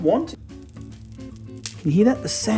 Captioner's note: bread crackling